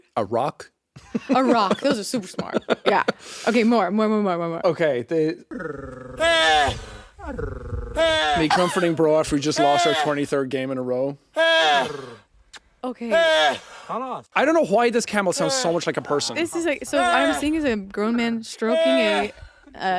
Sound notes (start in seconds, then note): 1.0 chuckles; 5.5 man mimics purring; 6.7 camel panting